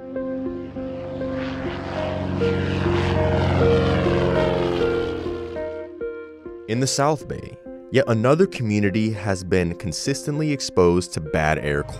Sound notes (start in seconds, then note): 1.8 airplane engine roaring; 1.8 bright upbeat music